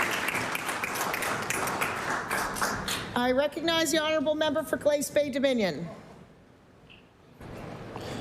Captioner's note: applause